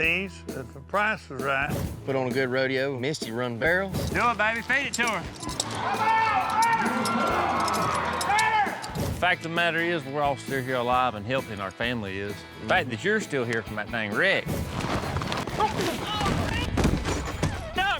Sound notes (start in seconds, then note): 5.6 crowd cheers; 14.5 hoofbeats, thud